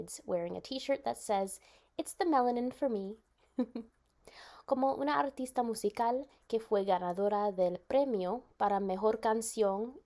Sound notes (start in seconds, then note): 3.5 chuckles